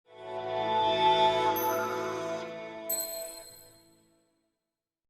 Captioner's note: whimsical chime